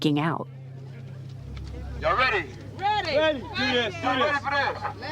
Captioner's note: archival audio act up protest